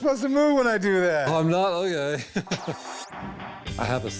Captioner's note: chuckles